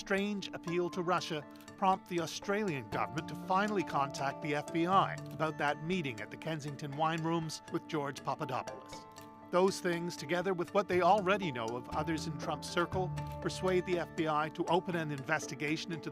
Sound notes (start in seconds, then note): none